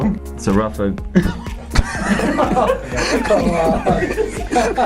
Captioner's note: laughing